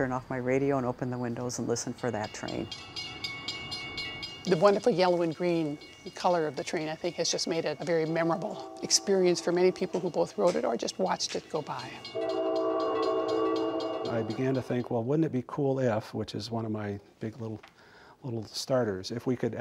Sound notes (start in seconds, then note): 2.9 bells clanging; 12.2 horn blares, bells ring